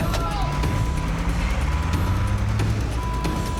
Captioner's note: wailing continues